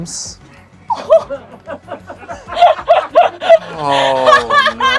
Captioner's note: everyone laughs